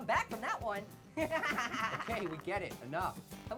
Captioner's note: Annoying Orange laughs